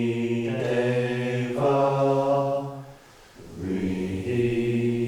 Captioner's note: chanting continues